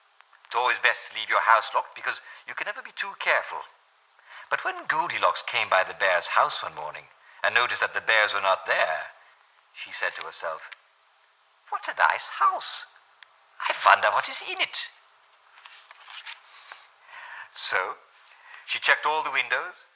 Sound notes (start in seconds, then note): 11.4 German accent; 16.2 regular accent